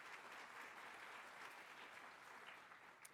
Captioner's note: applause